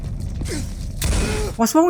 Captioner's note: heeugghh!!!